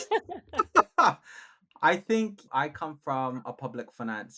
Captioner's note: laughing